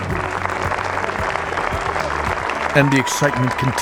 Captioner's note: applause and cheering